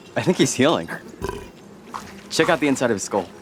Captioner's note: Slurp burps